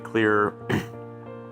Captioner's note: clearing throat